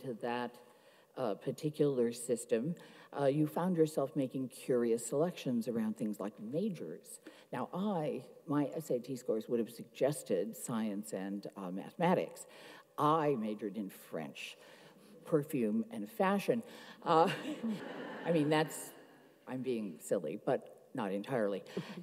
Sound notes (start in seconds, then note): 17.2 laughs; 17.3 audience laughs